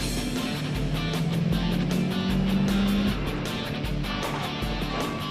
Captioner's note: traffic noises